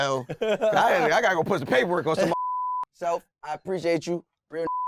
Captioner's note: beep; beep